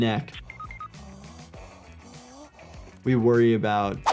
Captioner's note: IShowSpeed gasping